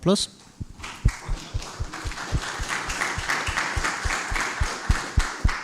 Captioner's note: applause